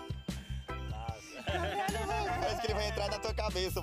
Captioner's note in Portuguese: risos